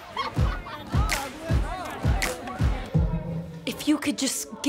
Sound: people laughing and chattering

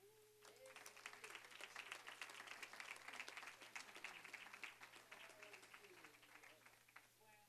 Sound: applause

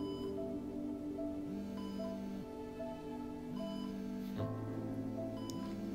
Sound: phone ringing

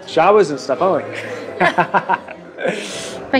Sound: laughing

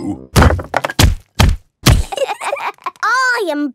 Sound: banging

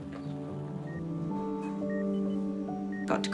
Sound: monitor beeps

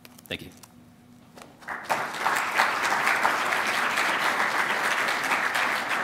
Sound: applause

